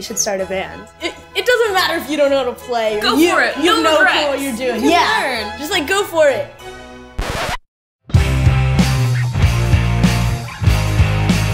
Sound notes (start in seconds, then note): 7.1 record scratches; 8.1 upbeat punk music